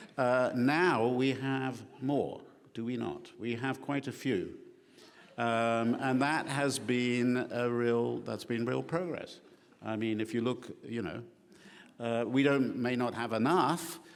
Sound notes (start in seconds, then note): none